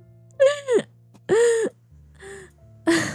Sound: wheeze; laughing and wheezing

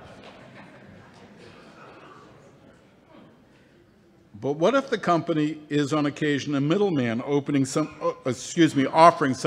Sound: laughter

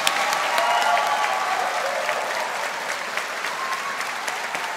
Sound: audience applauding

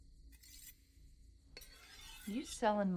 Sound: knife scraping

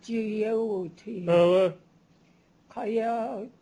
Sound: non-english speech

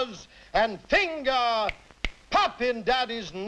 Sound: two snaps

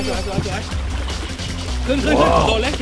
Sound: water moving

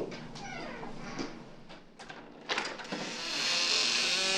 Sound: door creaks open

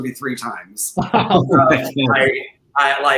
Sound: laughing

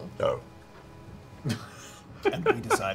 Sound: laughing

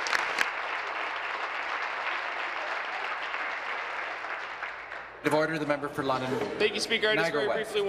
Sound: applause

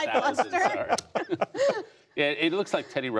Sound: laughter

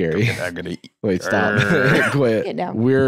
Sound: growls

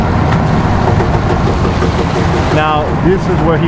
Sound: boat creaks

